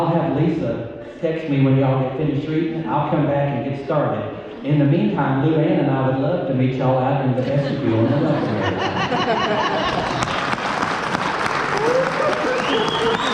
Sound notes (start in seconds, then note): 7.4 laughter and applause